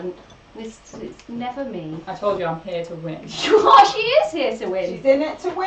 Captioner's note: laughs